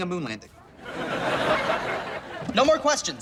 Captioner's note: audience laughs